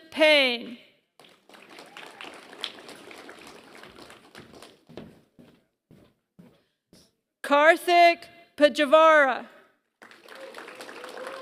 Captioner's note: applause